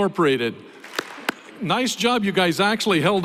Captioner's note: applause